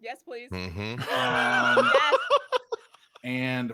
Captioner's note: laughs